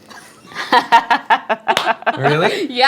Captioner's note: laughing